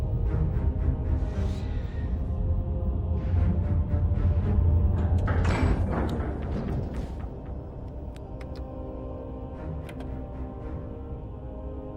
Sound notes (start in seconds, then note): 5.4 metal clang